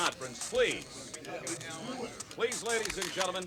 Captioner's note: camera shutters click